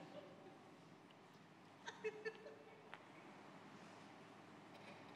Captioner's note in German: vereinzelte Lacher